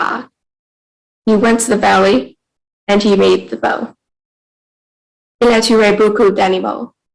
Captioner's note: speaking in French